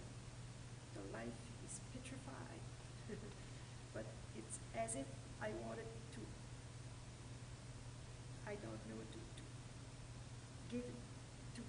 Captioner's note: laughter